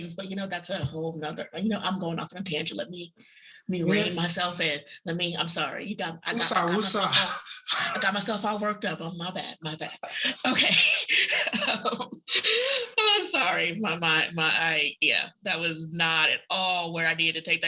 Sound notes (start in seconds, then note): 10.2 laughter